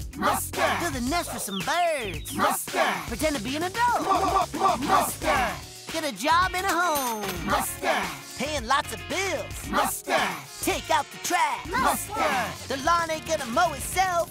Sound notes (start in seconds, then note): 3.9 electronic stuttering